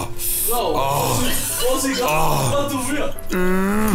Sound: racer noises; larger male orgasam; male orgasam

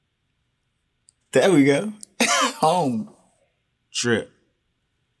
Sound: chuckles

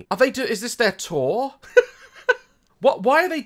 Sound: laughs

